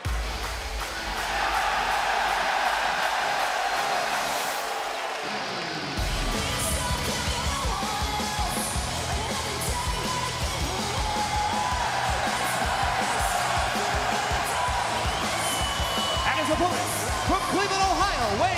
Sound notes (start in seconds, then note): 5.4 crowd cheering